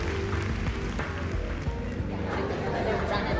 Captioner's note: chatter